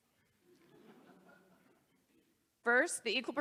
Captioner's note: audience laughs